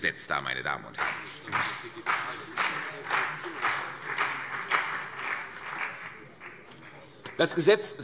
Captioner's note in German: Beifall CDU und BÜNDNIS 90/DIE GRÜNEN